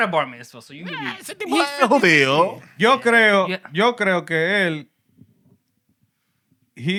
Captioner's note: speaking Spanish